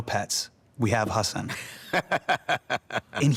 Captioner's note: laughs